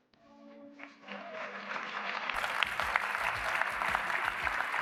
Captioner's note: applause